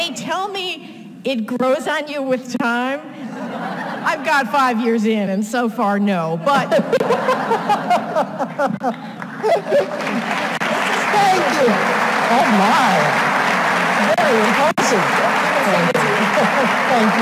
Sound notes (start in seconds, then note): 6.5 laughs; 15.4 applause drowns out voice